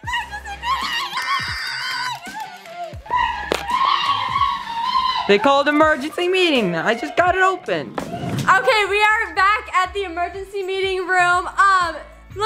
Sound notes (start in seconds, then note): 3.4 screams